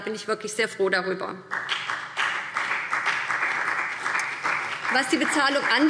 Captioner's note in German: Beifall BÜNDNIS 90/DIE GRÜNEN und vereinzelt CDU